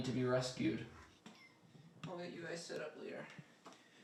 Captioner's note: kitten meows